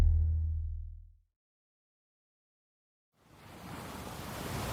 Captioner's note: transition sound